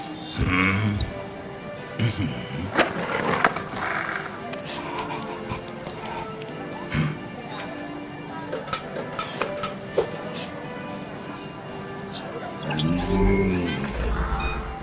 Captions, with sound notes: Hm? Mhm. [breathing heavily] Hm! Mmmm.